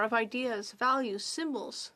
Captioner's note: speaking French